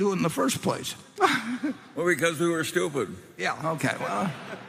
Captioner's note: laughs; laughter